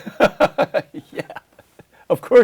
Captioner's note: laughs